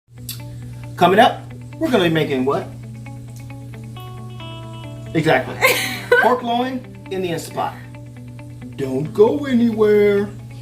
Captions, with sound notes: - Coming up, we're gonna be making what? Exactly. (laughs) - Pork loin, in the Instant Pot. Don't go anywhere.